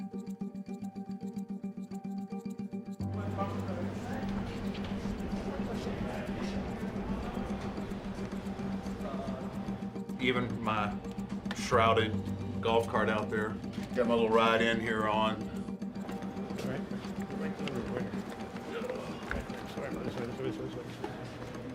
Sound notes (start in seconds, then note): 0.1 suspenseful music; 3.3 crew chattering